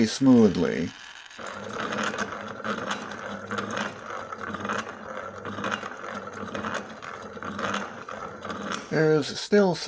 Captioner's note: mostly smooth grinder sound